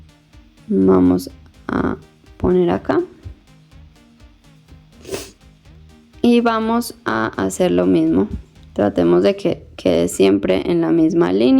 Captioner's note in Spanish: resoplido